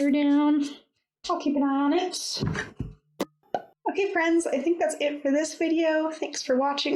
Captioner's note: pop!